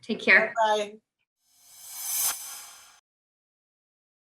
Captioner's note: swish